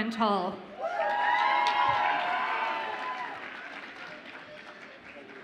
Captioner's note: audience applauds and cheers